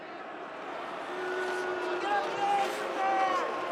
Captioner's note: crow booing